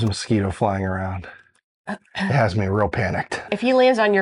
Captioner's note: clears throat